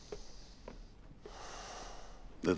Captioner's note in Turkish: none